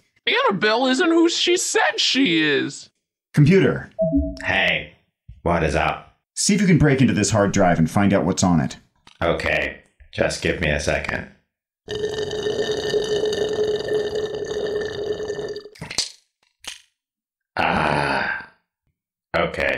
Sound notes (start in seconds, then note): 12.0 slurps something through a straw. Smacks lips